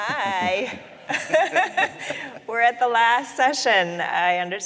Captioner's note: laughs